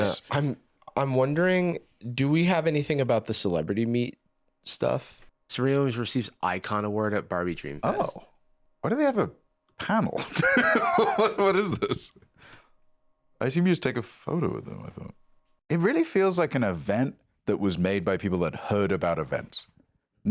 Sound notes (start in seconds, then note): 10.9 laughs